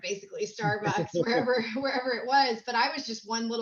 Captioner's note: laughs